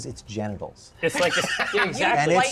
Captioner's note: laughter